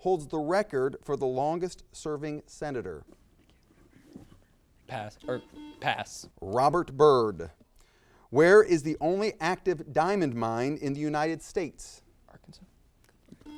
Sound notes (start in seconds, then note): 5.2 buzzer beeps